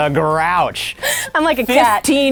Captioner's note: laughing